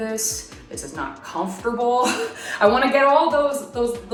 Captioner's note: laughs